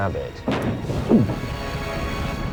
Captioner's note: heavy thud